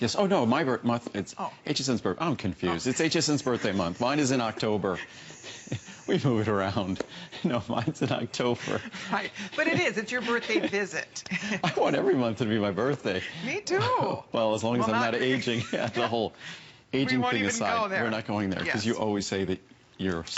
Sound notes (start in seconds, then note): 7.5 laughter